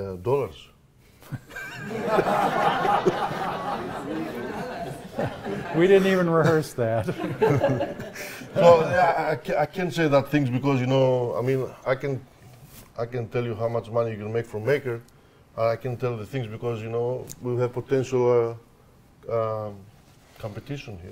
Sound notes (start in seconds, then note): 1.4 audience laughing